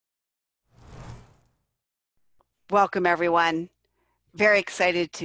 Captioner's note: title whooshes into view